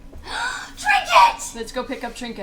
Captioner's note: gasps